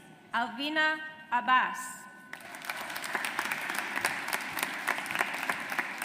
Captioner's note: audience applauds